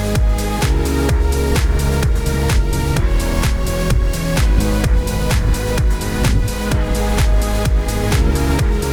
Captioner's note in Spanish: Sonido de zumbido del dron volando en algún lugar arriba